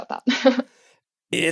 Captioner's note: laugh